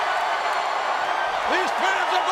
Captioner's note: crowd cheering